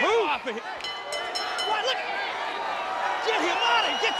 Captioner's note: bell chiming